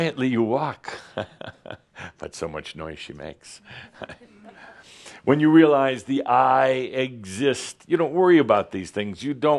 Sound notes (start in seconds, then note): 3.7 Adamus chuckles